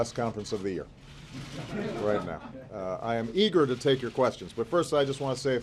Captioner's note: laughter